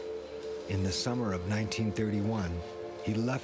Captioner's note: voiceover